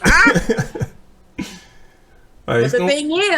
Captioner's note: laughing